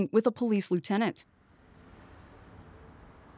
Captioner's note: ambient city sounds